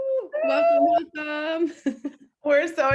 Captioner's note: laughing